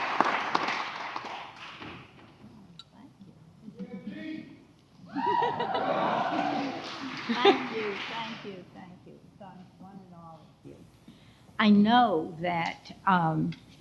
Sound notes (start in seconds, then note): 5.1 audience applauds and cheers